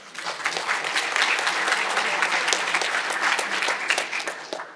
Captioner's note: audience applauding